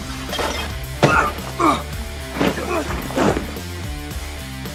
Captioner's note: both grunting